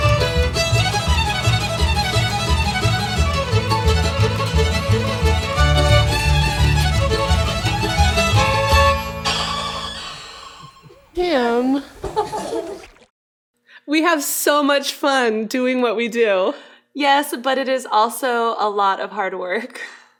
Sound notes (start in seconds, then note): 8.9 violin Screech; 11.9 laughter